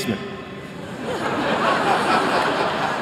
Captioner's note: laughter